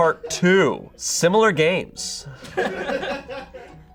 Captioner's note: audience laughing